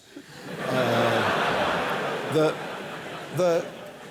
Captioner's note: laughter